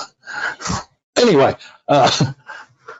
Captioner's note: laughing